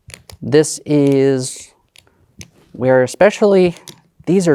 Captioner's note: tokens clattering